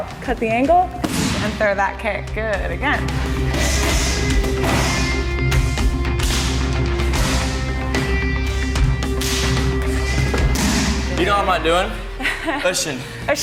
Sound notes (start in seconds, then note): 3.8 hushes; 4.6 confident, rhythmic rock music